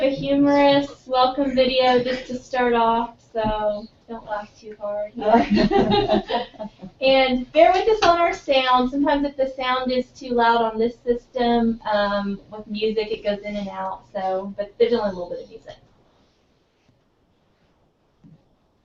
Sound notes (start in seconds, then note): 5.2 laugh